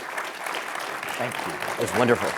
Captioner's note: applause